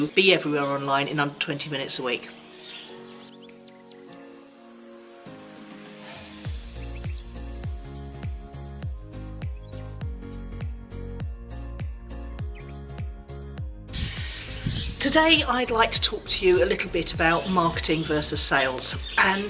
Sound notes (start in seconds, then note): 2.7 birds twitter; 5.2 upbeat electronic music